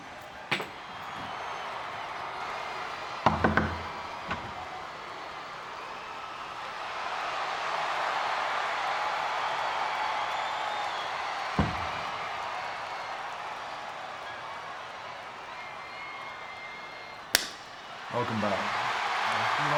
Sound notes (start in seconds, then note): 0.1 audience cheering; 3.4 knuckles tapping; 7.6 audience cheering; 11.6 door bangs; 17.3 hands slap; 17.5 audience cheering